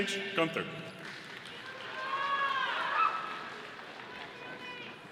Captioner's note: audience applauding